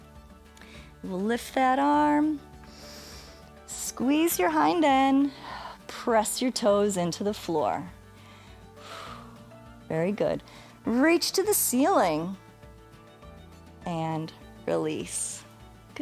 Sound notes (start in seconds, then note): 2.7 inhales; 8.1 exhales